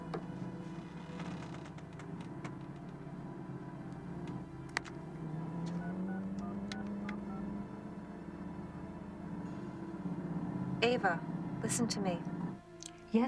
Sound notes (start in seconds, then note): 5.6 dial beeping